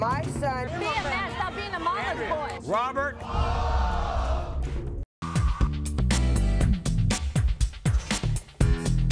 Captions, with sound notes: - Be a man, stop being a mama's boy. - Robert. (audience groans)